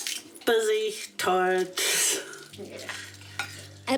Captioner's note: scoffs